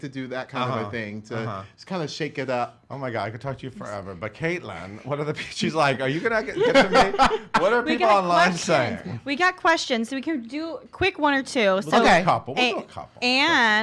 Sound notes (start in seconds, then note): 6.2 laughs